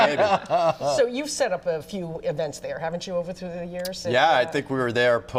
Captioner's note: laughter